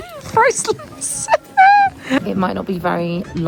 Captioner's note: laughs